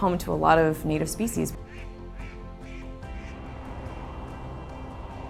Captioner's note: geese cackling